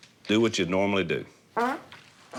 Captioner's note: farting